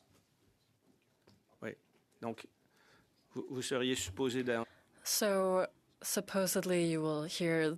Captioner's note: speaking French